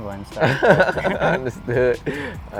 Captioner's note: laughs